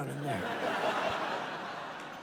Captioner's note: laughter